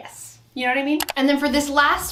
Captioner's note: camera shutters